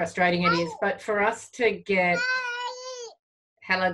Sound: baby cooing

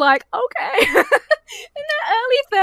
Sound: laughs

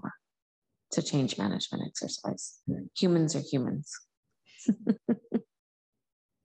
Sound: laughs

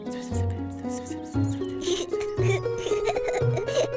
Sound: whispering; chuckling

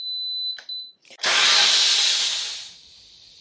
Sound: sound of releasing steam

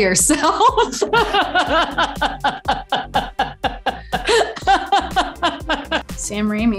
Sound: laughs

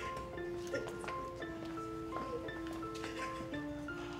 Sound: Abby sobbing

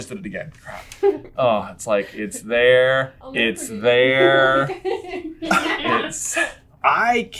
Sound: team laughter

